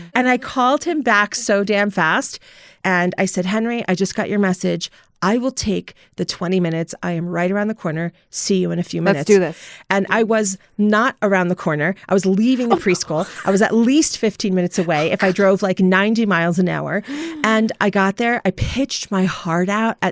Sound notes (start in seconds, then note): 12.6 laughter